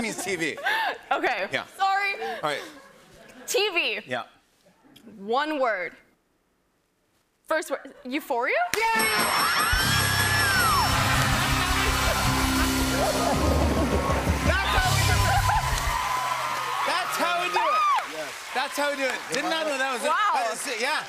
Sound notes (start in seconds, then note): 8.9 bell dinging; 11.0 cheers and applause